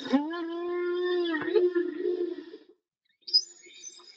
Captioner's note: whale grunts